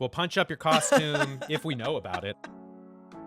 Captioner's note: laughter